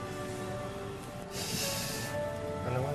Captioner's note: sighs